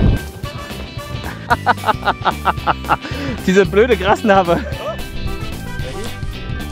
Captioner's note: laugh